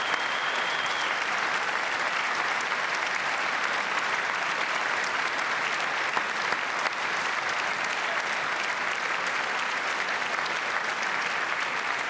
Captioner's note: cheers and applause